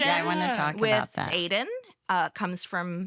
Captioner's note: all agreeing